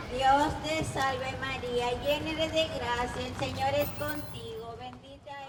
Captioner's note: praying in foreign language